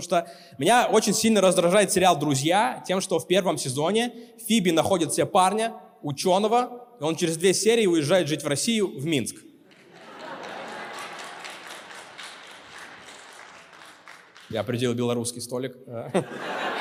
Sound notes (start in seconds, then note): 11.8 applause